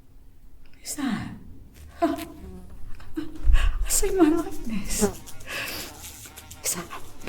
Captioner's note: flies buzzing